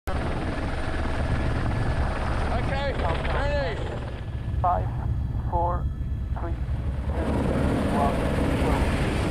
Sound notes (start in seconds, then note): 0.0 helicopter juddering